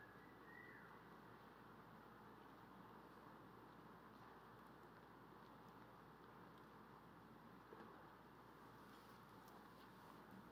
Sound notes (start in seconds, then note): none